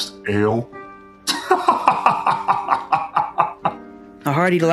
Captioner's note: Chad laugh